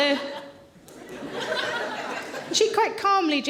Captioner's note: audience laughing